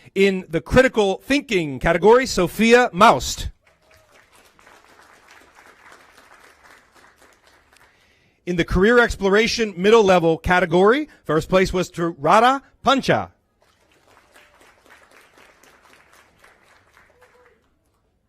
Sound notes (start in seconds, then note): 0.2 applause; 9.2 applause